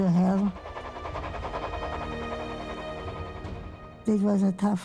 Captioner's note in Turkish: tren geçiyor